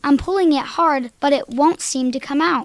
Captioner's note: none